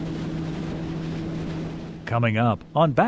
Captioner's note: boat humming